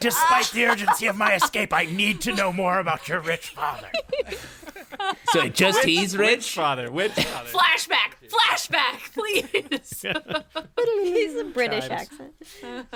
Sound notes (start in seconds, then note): 2.9 laugh; 12.7 laughs again, everyone calms down